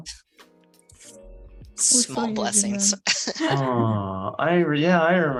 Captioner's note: laughter